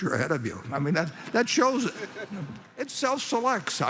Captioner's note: laughter